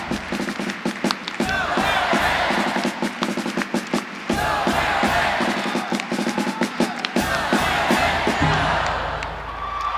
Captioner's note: applause